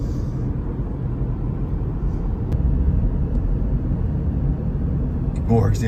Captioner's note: car softly driving